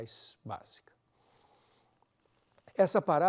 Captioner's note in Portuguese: pausa sonora